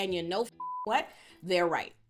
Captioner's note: beep